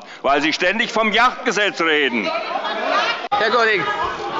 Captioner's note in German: Zurufe von der SPD und der FDP